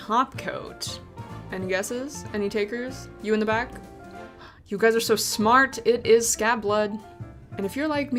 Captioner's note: gasp